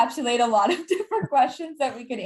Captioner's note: laughs